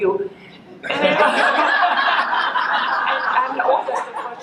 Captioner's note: laughter